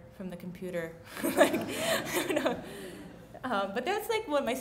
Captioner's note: laughs